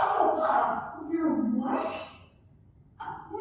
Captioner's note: SOUND EFFECT: spoon dropped in bowl